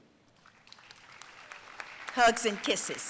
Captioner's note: audience applauding